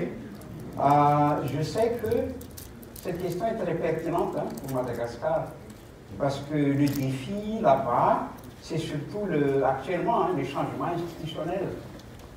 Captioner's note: speaking in French